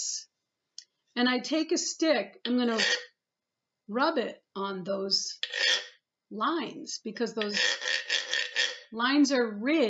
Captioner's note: scrape; scrapes